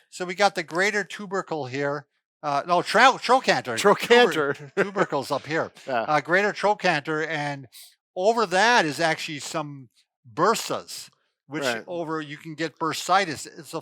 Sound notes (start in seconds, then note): 4.2 laughs